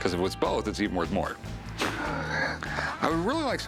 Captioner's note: laughs